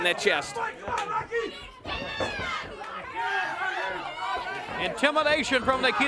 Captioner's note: crowd chatter